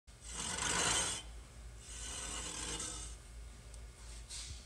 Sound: wood and metal sliding

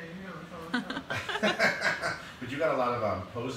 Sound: laughing

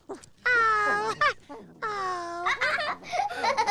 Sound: laughing

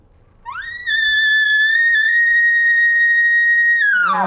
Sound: elk call sound

